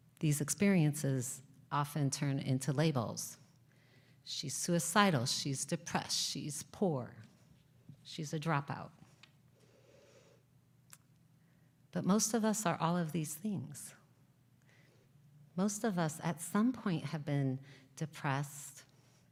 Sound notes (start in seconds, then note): none